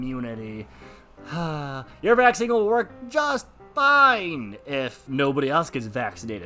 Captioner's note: sigh